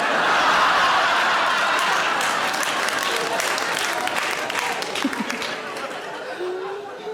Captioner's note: audience laughing; audience applauding